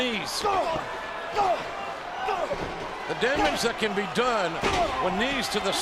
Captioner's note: applause